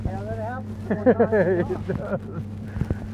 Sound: chuckling; laughing

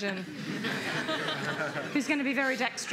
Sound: laughter

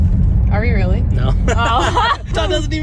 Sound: laughs

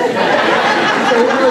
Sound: laughter

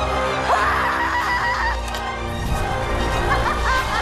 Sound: screams

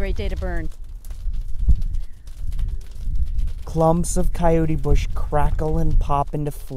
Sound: fire crackling

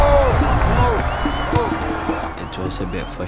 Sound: crowd cheering; ball thuds

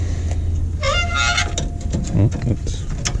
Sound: scratch noise

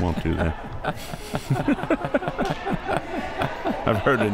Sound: laughs

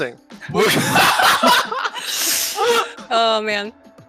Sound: laughing

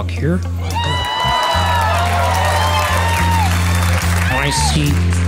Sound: audience cheering

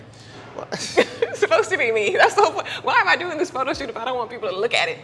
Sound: chuckles

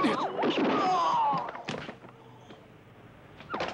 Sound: gun blasts; man grunts; siren wailing

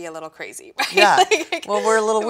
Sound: laughs

